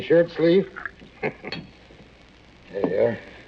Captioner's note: chuckles